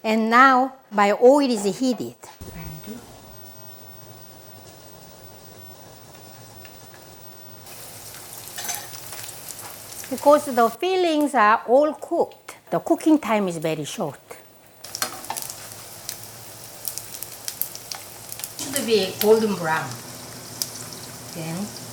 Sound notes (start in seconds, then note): 8.3 mandu sizzling; 14.4 pan sizzling